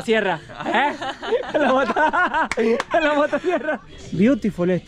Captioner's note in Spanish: Risas